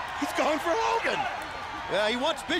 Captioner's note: crowd cheering